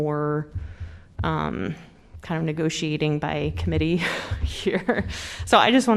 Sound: laughter

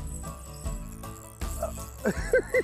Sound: giggling

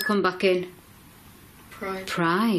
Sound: loud beeping

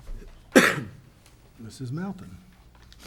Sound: coughs

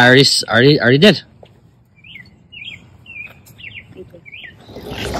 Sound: birds chirping

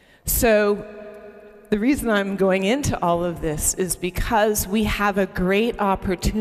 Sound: none

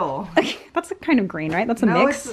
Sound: laughs

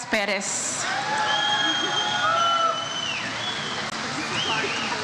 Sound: audience cheers

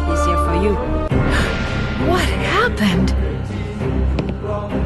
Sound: Nancy gasps; footsteps

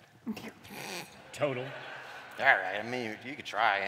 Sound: laughter

